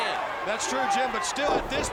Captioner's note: crowd cheering